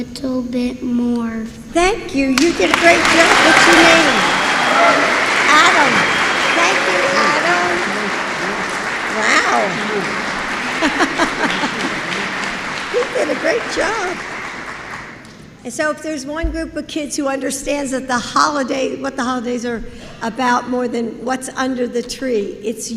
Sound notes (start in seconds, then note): 5.5 applause; 6.4 laughs